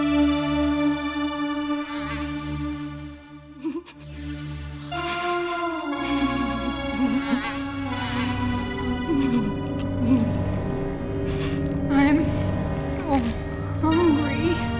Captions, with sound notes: (sobbing) (haunting music) - I'm so hungry.